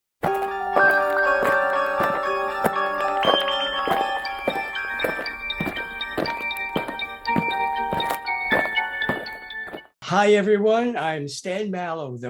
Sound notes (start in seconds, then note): 0.2 eerie music; 5.1 aliens marching